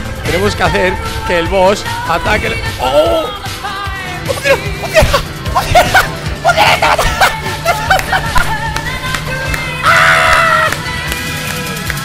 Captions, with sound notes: We have to make the boss attack us. OH! *in disbelief* It works! IT WORKS!!! It works! IT WORKS!!! IT WORKS!!! *Claps* AHHHHH!